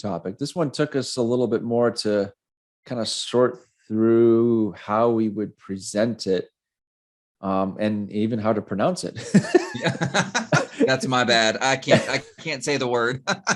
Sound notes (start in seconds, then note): 9.2 both laughing